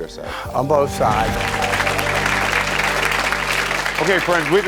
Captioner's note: audience clapping